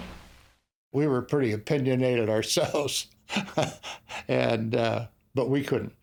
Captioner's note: laughs